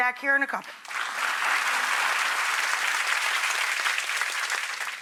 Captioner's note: audience applauding